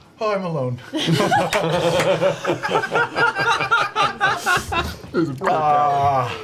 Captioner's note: all laugh